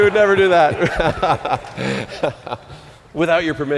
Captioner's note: laughter